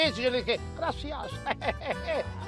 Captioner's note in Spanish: Ríe